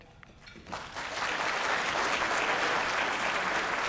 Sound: applause

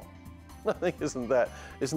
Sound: laughs

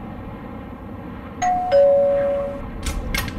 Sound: winds blowing; doorbell rings; door hatches open

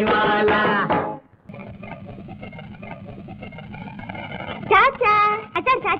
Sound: crackers bursting

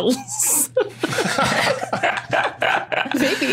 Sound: group giggling

